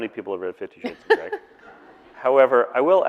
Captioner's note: audience laughing